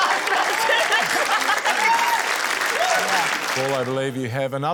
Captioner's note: cheering, applause